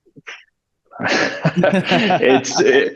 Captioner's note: both laughing